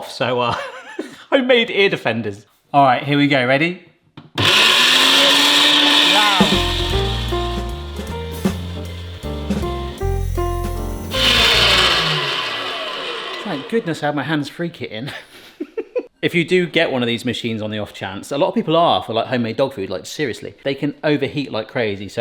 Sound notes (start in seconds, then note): 4.4 mincer buzzing loudly; 6.9 mellow music; 11.4 mincer buzzing